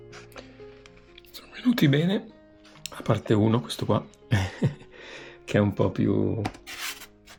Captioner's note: laughter